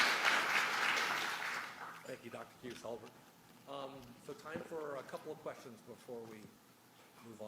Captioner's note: applause